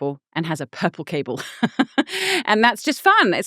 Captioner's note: laughing